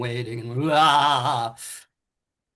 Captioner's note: groans